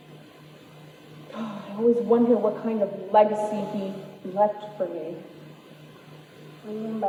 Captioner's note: sighs